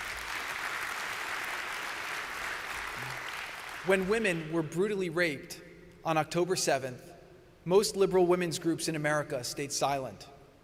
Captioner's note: applause